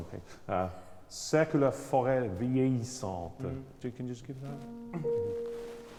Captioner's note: speaks in foreign language